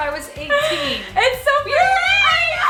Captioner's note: laughs